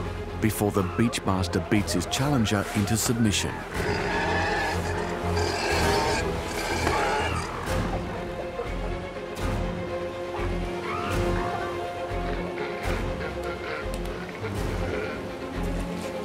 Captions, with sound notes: before the beach master beats his challenger into submission. [roaring] [dramatic music continues]